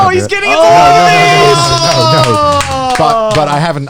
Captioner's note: cheers and claps